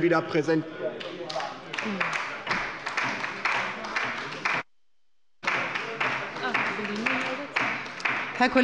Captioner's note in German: Beifall bei der LINKEN